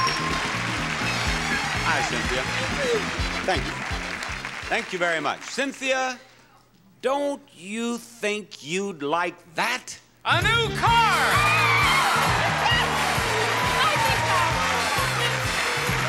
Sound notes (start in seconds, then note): 11.2 screams; 12.9 audience applauds